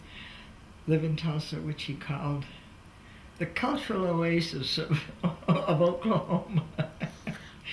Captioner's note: laughs